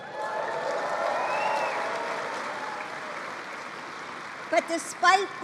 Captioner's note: applause